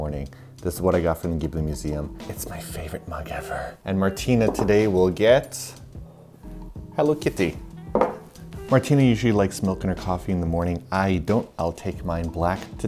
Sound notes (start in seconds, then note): 2.1 whispers with owo